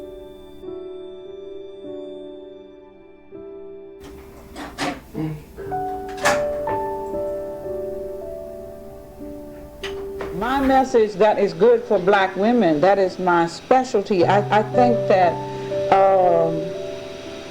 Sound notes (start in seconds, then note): 0.2 gentle music; 6.4 cassette clicks